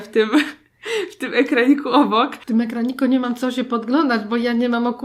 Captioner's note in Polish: śmiech